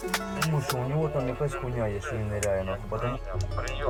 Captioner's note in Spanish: Audio hablado en ucraniano